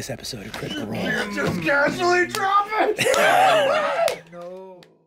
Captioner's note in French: rires